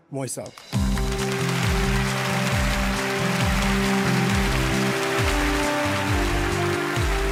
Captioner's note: inspiring music; applause